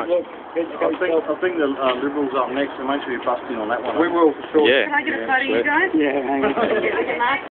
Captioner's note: laughter